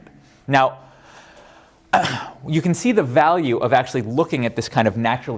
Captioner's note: cough